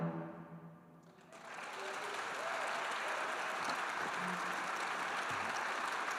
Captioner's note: audience cheering and applauding